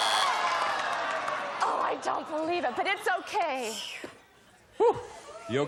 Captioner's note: buzzer